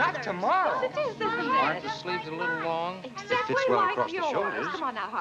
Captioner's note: indistinct conversations